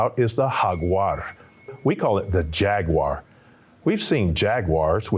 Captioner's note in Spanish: sonido de campana